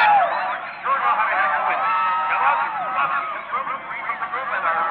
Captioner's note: announcer speaking